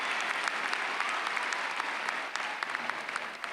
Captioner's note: applause